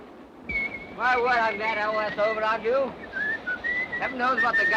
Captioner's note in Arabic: يصفر جيلبرت